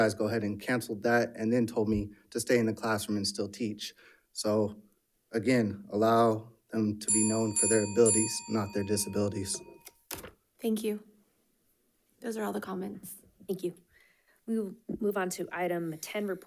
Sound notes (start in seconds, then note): 9.8 timer ringing